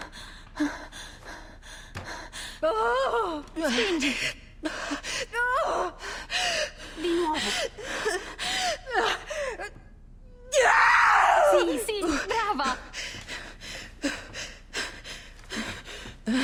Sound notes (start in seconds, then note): 3.3 in Italian